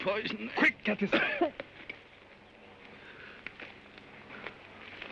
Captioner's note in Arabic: الرجل الجريح يسعل